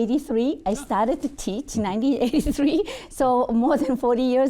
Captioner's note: chuckling